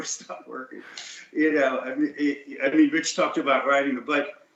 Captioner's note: laughs